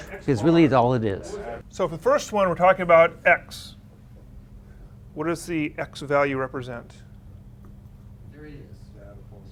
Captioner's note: students respond